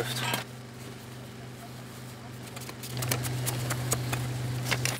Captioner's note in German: Maschinenrattern